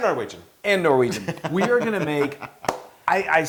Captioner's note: laugh